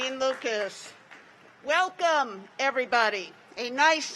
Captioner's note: applause